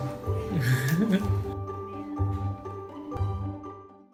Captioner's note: giggling